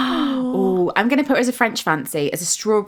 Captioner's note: gasps